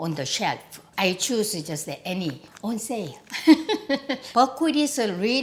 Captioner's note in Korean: 웃음소리